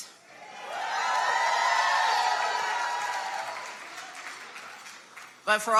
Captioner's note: audience cheers and applauds